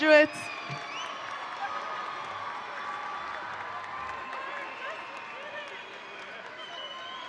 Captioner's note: people chattering; audience cheering